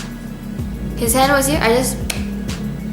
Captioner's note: clap